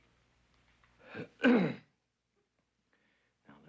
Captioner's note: clears throat